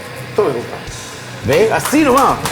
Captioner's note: applause